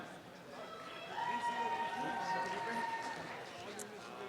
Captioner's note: applause and cheering